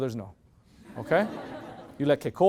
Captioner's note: loud laughter